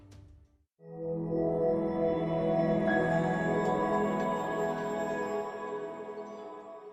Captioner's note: swelling tone, high pitched bell